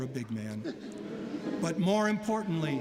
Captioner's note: laughter